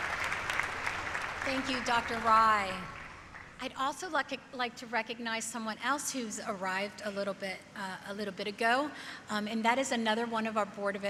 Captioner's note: applause